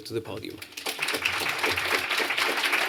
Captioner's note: applause